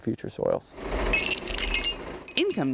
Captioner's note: chain rattling